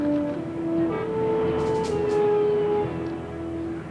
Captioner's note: cars honking